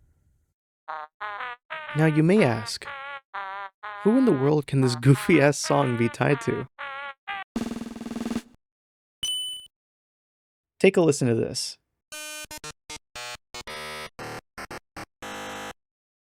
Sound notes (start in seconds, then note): 7.6 drumroll; 9.2 ding